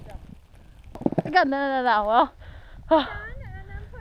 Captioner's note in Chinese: 喘個氣